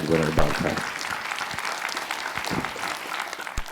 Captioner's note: applause